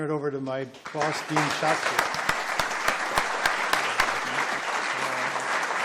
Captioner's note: applause